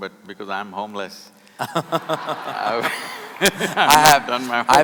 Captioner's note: laughter